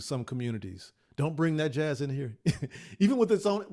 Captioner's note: laughs